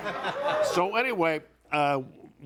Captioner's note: audience laughing